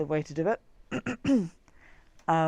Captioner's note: coughs